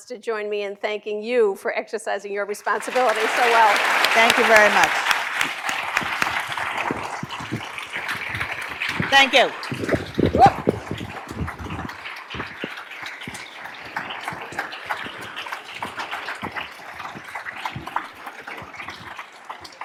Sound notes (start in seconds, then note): 3.6 applause